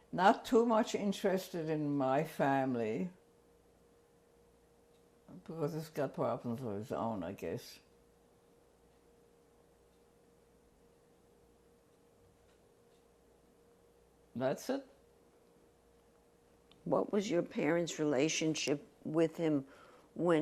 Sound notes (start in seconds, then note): 7.8 pauses for 7 seconds